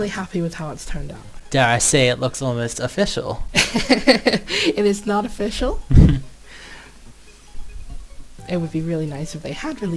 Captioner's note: laughs